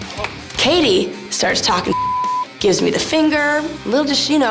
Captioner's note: beep